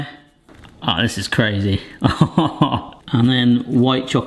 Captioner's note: laughing